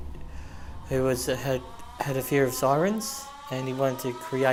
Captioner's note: sound of siren